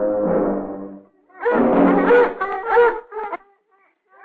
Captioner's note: dogs barking